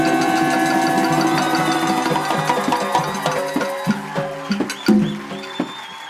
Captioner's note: applause and cheering